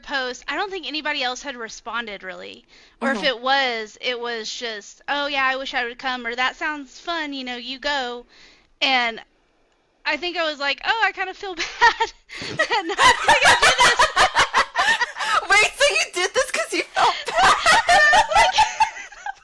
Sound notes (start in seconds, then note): 12.3 laughter